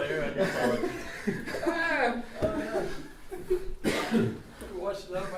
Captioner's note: laughter